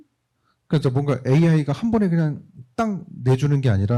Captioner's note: speaking korean